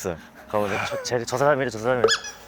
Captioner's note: whispering